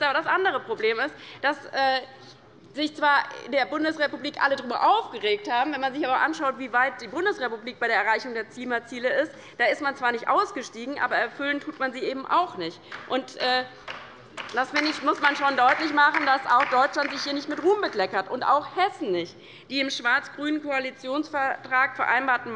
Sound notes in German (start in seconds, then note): 14.3 Beifall bei der LINKEN